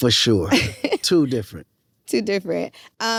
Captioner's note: chuckles